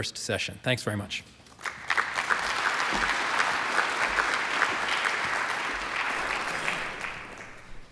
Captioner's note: applause